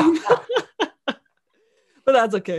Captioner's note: laughing